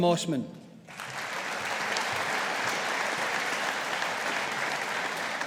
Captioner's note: audience applauding